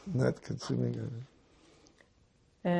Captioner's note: drinking